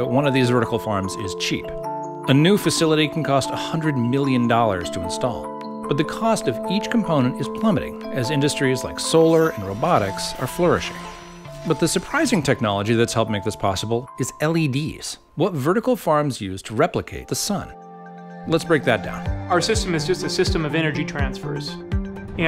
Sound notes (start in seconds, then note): 10.9 machine motor whirs; 16.7 catchy music